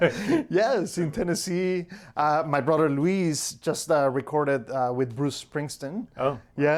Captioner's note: laughs